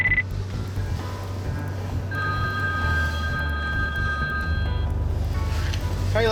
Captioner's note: phone rings; phone rings